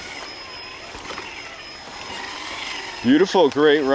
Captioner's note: engine roaring